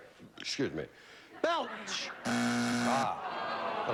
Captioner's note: buzzer